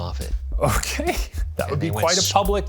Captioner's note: laughs